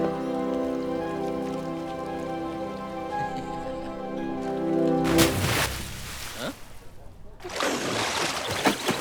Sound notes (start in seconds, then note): 5.0 splash!